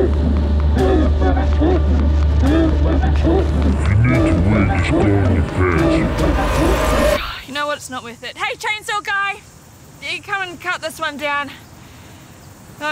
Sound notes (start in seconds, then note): 7.1 exhales